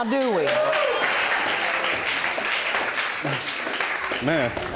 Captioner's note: audience clapping; audience exclaiming